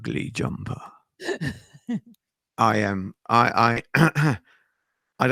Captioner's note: clears throat